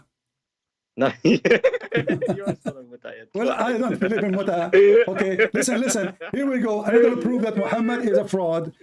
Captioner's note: Ketawa